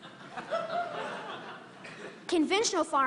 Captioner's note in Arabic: ضحك